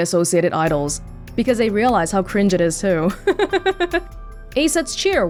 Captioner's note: chuckles